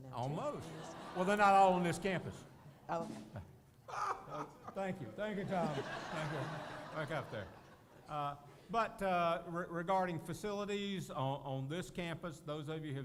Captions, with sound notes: session we have almost enough parking spaces for them almost Well they're not all on this campus Oh [laughter] thank you thank you Tom but regarding facilities on this campus those of